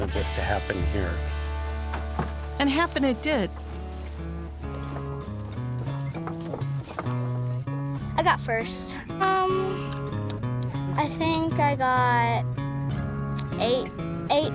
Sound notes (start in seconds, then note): 1.2 corn stalk rustling; 7.1 upbeat country music; 10.4 clicking sounds